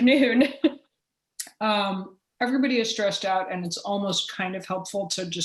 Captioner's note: chuckle